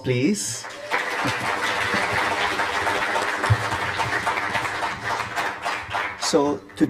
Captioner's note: applause